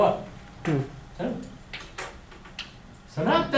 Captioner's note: voiceover